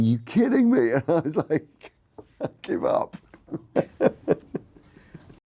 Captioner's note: laughs